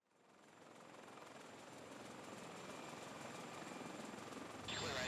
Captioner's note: helicopter fluttering; man speaking muffled over radio